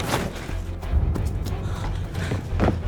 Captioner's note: door shaking; outside footsteps